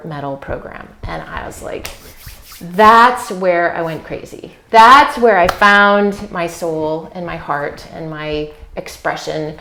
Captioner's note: rubbing hands